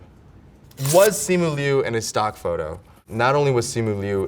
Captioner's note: paper rips